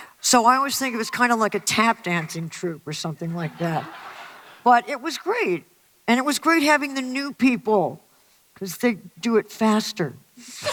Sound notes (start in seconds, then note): 3.4 audience laughter